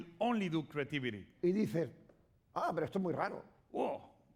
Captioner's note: speaking spanish